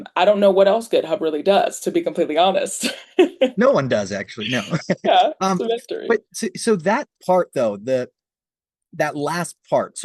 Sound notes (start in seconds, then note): 4.4 laughs